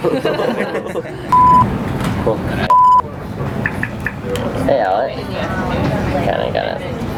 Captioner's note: laughter; background chatter